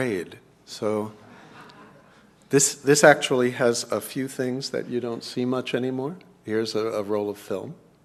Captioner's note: laugh